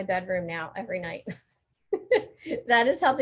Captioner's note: laughing